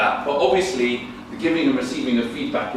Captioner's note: none